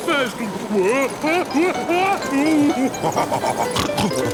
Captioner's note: shouting; laughing, snorting